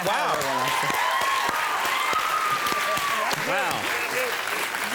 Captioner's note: crowd cheers